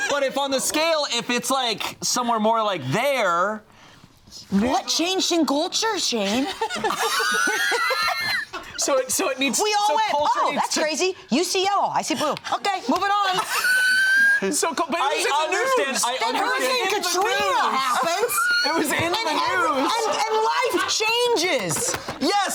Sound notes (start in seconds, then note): 6.3 all laughing; 14.0 laughs